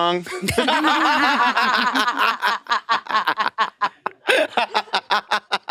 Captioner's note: participants laughing